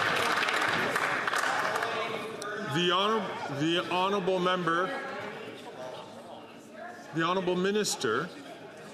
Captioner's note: some Applause